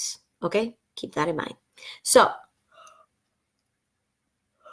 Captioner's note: yawn